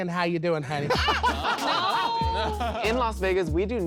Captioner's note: chuckles